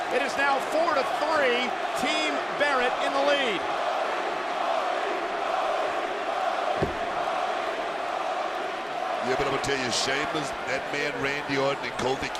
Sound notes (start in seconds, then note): 3.4 crowd chants "Cody"